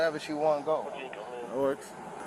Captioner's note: radio chatter